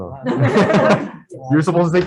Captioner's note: all laugh